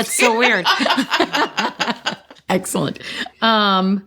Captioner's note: laughter